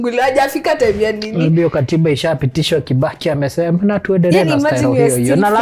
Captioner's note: reciting